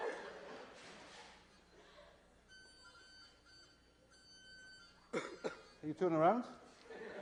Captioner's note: laughter; beeping; laughter; beeping